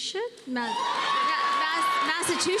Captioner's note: cheers and applause